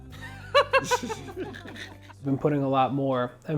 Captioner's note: laughing